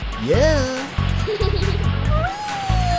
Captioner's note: giggling